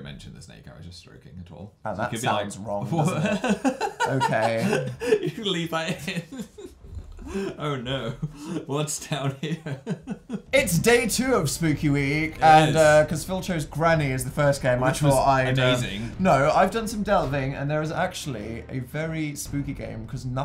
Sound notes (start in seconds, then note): 2.9 laughs